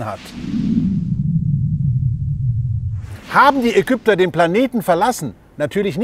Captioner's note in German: Rauschen